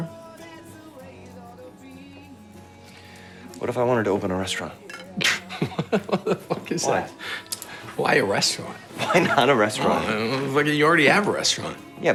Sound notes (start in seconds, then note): 0.2 soft music; 5.1 laughs